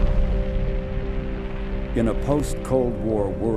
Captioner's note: rocket launching